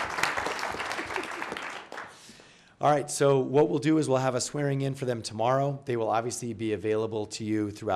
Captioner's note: applause